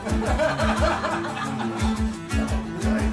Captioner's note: laughs